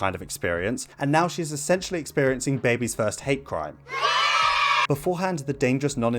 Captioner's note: yaaaaaaayyy!